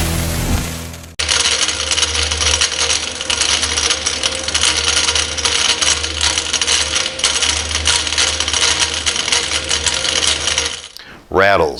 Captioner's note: rattling Sound